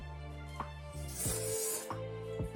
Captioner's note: slurp